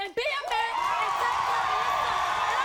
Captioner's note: audience cheers